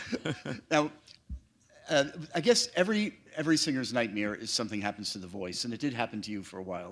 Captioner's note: laughter